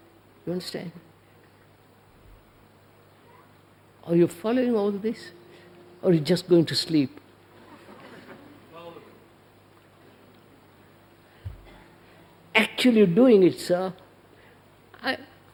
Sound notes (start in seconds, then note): 7.7 laughter